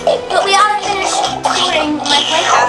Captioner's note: munching monster sounds